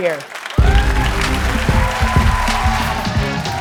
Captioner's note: cheers and applause